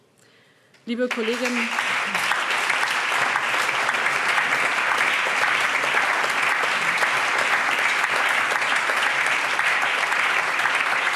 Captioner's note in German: Allgemeiner Beifall